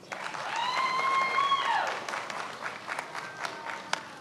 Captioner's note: many applauding